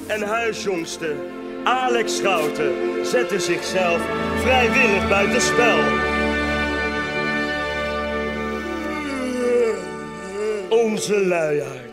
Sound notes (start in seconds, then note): 8.4 yawns very loud in the camera